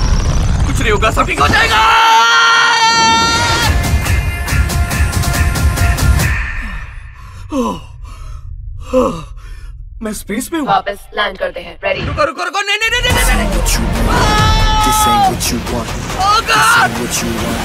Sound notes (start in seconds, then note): 6.5 gasping; 16.0 yelling